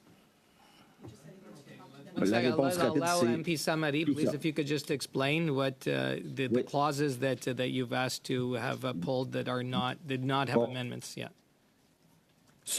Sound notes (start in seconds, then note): 6.3 speaking French